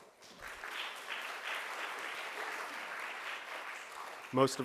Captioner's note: crowd applauds